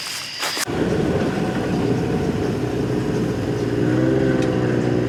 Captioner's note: engine rumbling